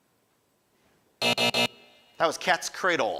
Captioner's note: alarm buzzes